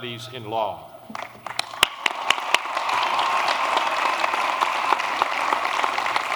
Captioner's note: applause